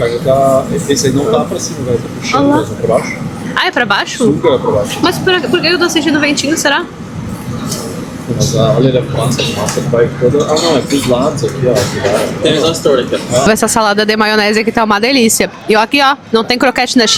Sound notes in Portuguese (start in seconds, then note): 11.7 limpando a garganta